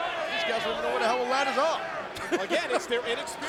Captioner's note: laughs